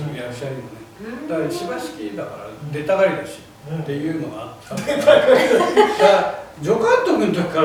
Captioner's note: laughs